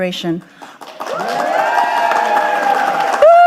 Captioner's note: audience applauding